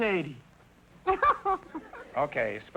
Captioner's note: laughing